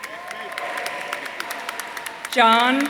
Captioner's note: audience applauding